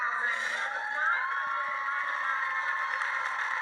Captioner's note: cheering